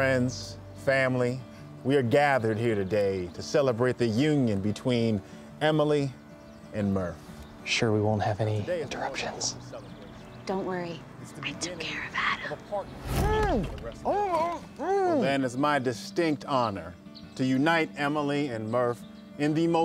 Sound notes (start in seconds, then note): 11.8 whispers; 13.4 muffled grunting